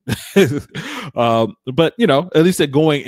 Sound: laughing

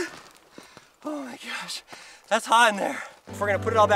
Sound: gasping

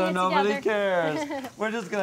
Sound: laughs

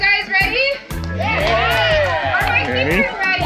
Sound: crowd cheers

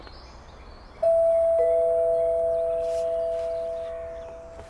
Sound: doorbell dings

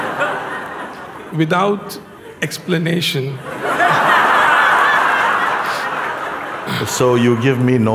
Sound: laughter; laughter

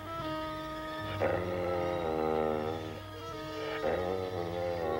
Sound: Shep growling

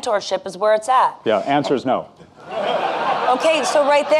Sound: audience laughing

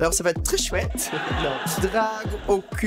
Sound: laughter

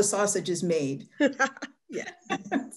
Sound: laughs

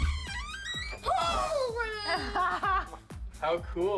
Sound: laughter

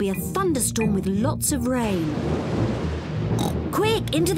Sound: thunder rumbles; oinks

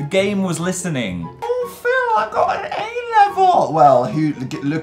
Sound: mocking high pitch

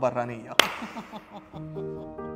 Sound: uplifting music; chuckles

